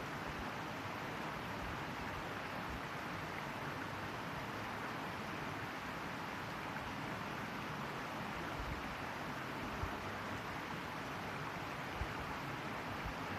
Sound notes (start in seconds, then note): 5.8 not speaking, sounds of running water